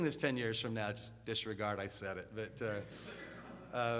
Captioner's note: audience laughs